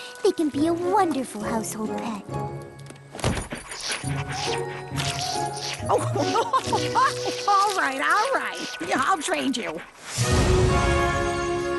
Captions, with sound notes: they can be a wonderful household pet. (slurps) (laughing) All right, all right. I'll trade you.